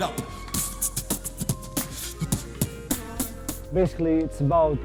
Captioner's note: beat-boxing